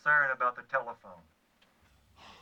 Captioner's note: sighing